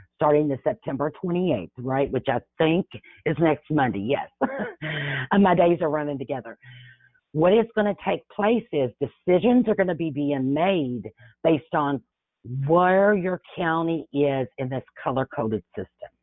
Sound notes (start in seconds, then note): 4.4 chuckles